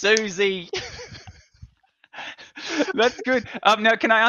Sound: laughs

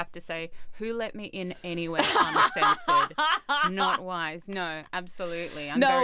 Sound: laughing

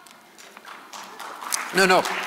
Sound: audience applause

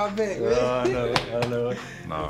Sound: chuckles

